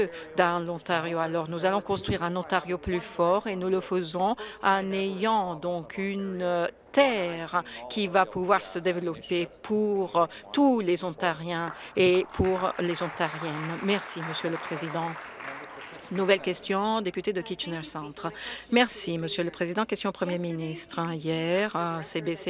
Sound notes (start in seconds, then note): 14.8 some Applause